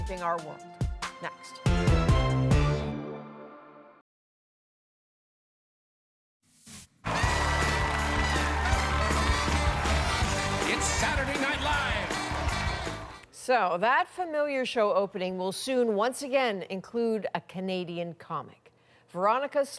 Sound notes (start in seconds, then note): 13.3 applause